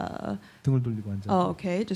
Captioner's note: speaking korean